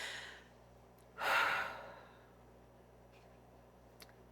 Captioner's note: sighs